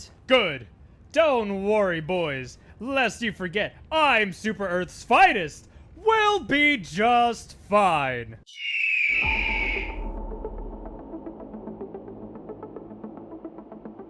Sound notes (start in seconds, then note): 8.5 eagle cawing; 8.5 eerie music